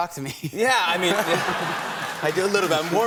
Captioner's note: laughter